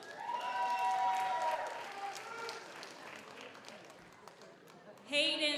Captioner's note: audience applauds; audience cheers